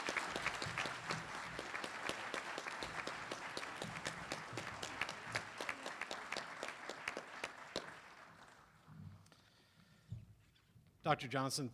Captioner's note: applause